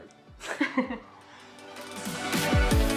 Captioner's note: both laugh; upbeat electronic pop music